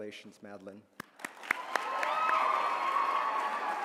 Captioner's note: applause